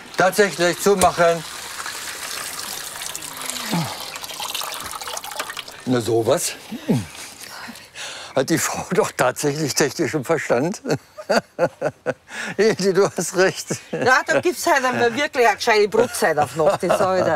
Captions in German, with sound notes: Tatsächlich! Zumachen! Na, so was. Hat die Frau doch tatsächlich technischen Verstand. (lacht:) Hilde, du hast recht. Dafür gibt's heute wirklich mal eine g'scheite Brotzeit auf d' Nacht.